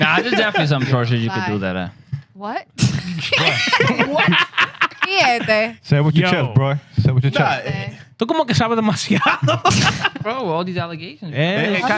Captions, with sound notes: Nah, there's definitely something that you can do there. What? (Laughing) What? Yeah, baby. Say it with your chest, bro. (Speaking In Foreign Language) Bro, all these allegations.